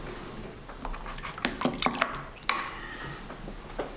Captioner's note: shaking, water splashing